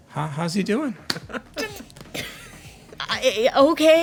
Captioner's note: laughing